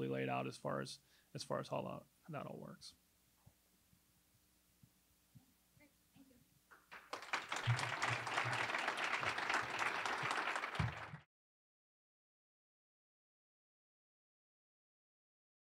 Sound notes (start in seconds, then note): 6.7 applause